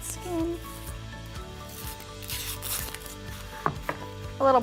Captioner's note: tearing